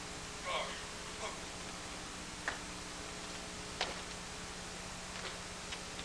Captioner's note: shouts